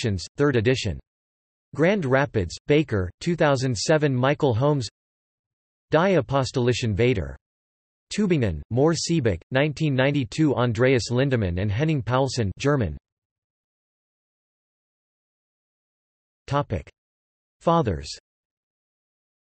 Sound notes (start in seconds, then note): 15.0 German